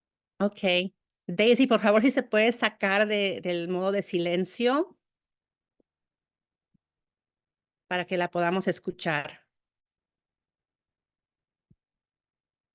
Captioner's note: speaking spanish